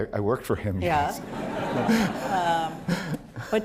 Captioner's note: laughter